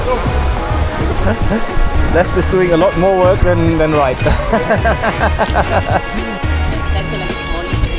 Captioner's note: laugh